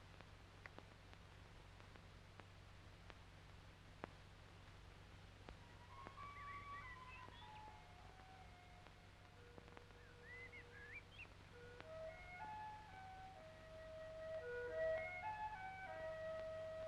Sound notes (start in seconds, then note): 5.5 birds chirping; 5.7 idyllic music